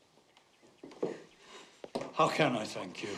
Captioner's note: sobbing